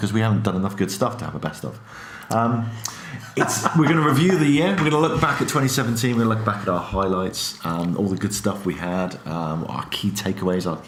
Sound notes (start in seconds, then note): 3.2 laughing